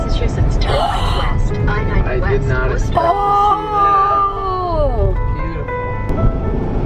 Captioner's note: sound of GPS device giving directions; gasps